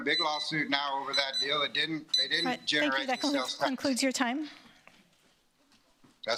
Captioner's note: timer